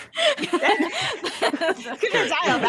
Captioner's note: all laughs